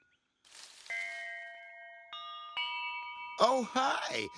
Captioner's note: bell rings